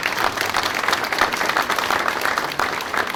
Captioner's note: applause